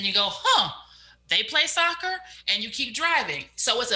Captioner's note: exclaims